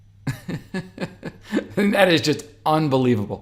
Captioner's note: chuckling